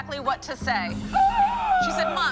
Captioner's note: gasp